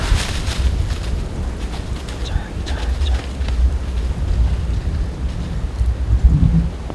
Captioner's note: sound of bowshot; running in leaves; whispering in stand, sound of wind